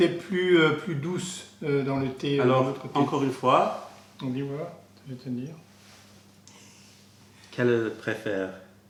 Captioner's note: french